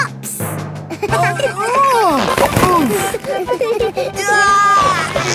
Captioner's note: giggling; grunting; giggling